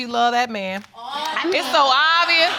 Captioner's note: audience exclaiming